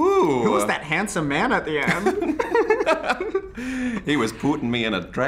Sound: both giggle

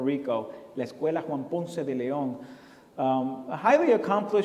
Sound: foreign language

